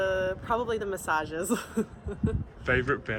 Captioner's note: giggles